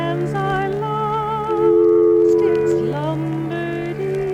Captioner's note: dial tone ringing